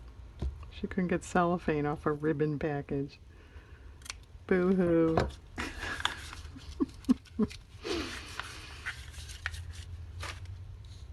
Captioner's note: laughs